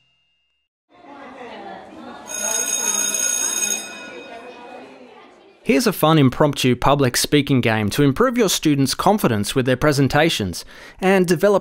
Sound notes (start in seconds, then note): 0.9 bell ringing over children chattering